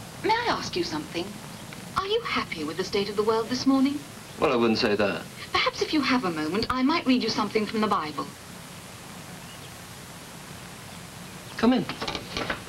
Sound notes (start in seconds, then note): none